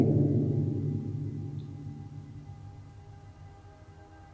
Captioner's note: echoes